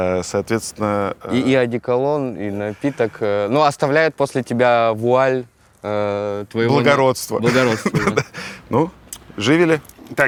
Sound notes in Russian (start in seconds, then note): 7.2 смеясь